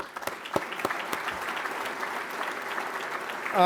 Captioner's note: applause